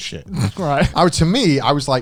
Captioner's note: chuckling